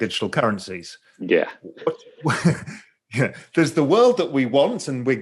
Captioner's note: chuckles